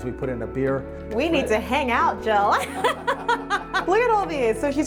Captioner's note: laughs loudly